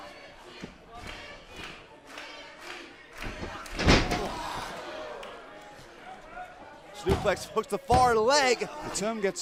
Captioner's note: crowd cheering